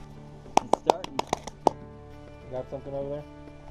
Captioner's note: clapping hands